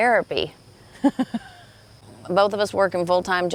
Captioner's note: laughing